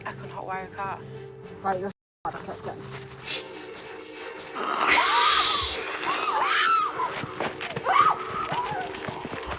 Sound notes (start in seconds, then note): 3.4 dramatic music; 5.1 all screaming